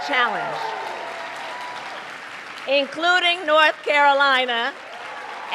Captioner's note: applause